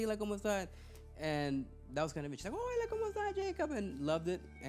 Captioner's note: speaking Spanish; speaking Spanish